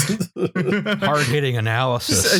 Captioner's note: laughter; laughs